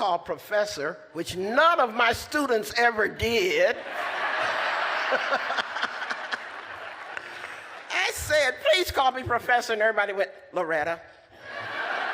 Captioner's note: laughter